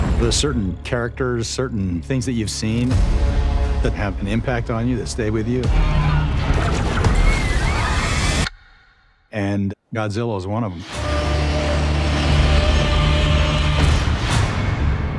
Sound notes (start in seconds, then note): 5.2 eerie sound; 5.7 screaming; 6.4 destruction SFX; 11.0 roaring